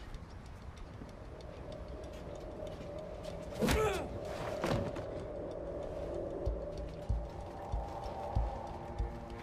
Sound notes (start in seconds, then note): 1.6 tense music continues; 3.7 blow thudding; 6.3 tense music